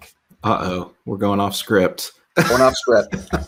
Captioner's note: laughing amusingly